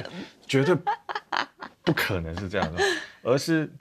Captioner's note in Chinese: 哈哈哈